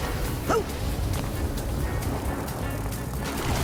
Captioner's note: wacky music; Raz grunts